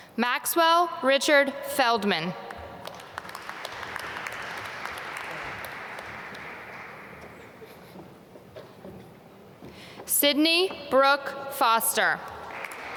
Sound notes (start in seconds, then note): 2.8 applause